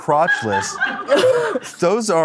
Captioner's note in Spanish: el equipo carcajea